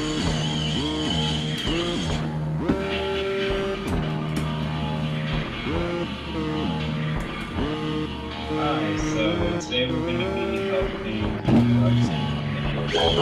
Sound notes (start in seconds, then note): 9.8 buzzing